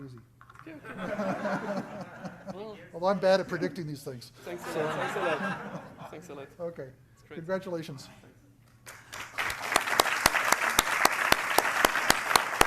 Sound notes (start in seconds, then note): 0.8 laughter; 4.6 laughter; 8.8 applause